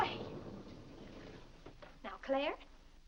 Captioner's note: doors sliding open